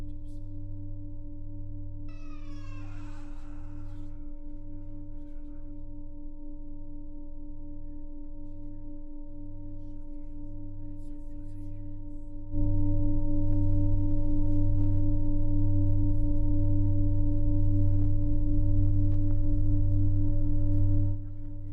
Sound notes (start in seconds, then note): 2.0 low humming continues; 2.2 door creaks; 9.7 low humming continues; 18.8 low humming continues